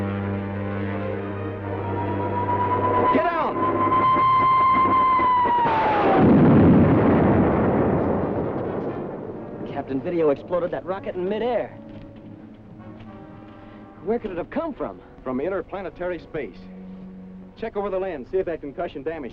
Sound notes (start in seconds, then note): 1.2 rocket whistling; 4.9 rocket explodes